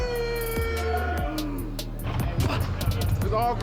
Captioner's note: intense hip-hop beat music; grunting